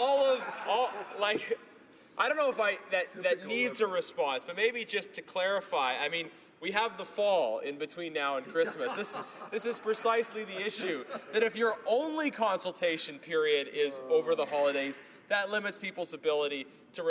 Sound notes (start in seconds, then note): 6.9 laughter